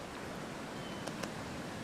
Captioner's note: tapping